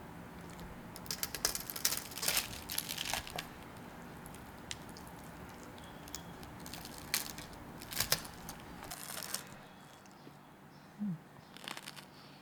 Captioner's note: gratuitous crunchy noises